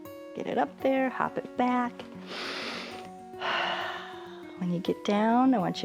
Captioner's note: inhales and exhales